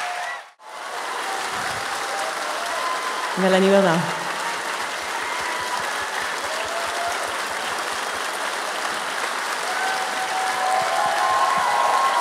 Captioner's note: warming applause. Céline enters the stage with Adèle Haenel and Noémie Merlant